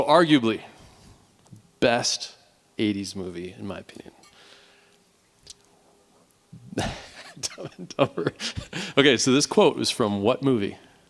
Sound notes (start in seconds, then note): 6.7 laughing